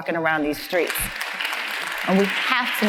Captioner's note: audience applauds